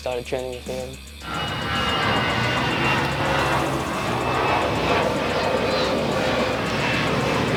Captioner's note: airplane flying over